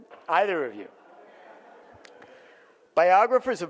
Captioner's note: audience laughs